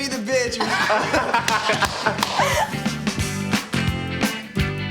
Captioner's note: everyone laughs